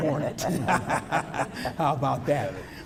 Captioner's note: laughter